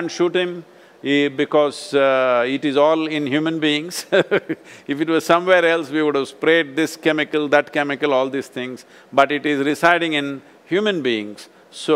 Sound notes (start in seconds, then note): 4.0 laughs